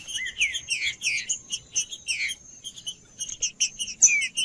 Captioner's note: trinca ferro cantando